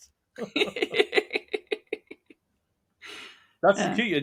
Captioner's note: laughing